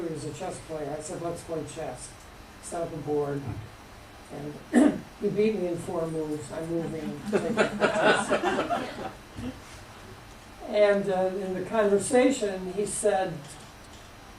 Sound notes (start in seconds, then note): 6.9 laughter